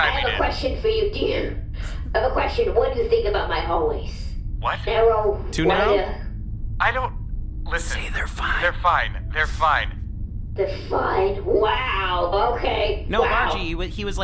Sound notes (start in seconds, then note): 0.0 laughing; 7.9 whispering; 10.7 sarcastic; 13.1 upbeat tone